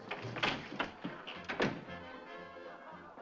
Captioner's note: door clicking shut